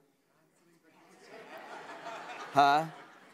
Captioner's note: laughter